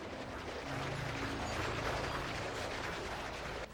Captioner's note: churning Noise</i> <i> Continues